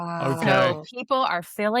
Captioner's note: laughs